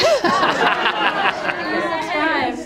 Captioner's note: laughter